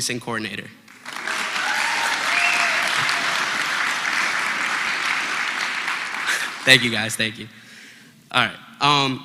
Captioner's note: applause